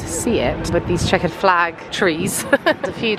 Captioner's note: laughs